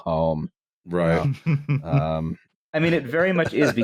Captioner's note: chuckles